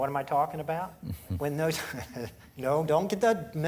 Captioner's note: chuckling